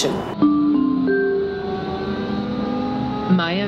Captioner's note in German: Gong